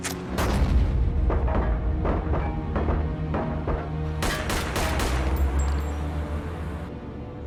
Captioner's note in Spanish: Disparos